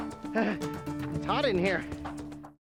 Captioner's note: pants